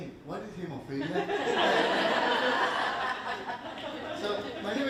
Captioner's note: audience laughing